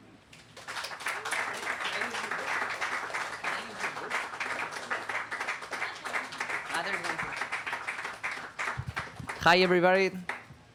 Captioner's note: applause